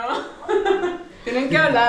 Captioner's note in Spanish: Risas